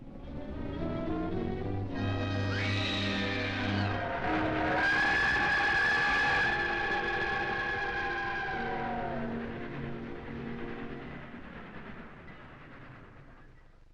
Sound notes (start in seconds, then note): 0.3 grim dramatic music; 2.5 Nora screaming; 4.8 train horn blowing; 9.1 train chugging